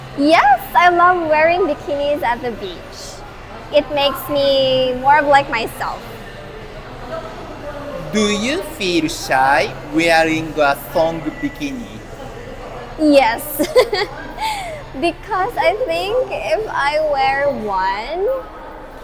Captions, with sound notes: Yes, I love wearing bikinis at the beach. It makes me feel more like myself. Do you feel shy wearing a thong bikini? Yes. (laughs) Because if I wear one,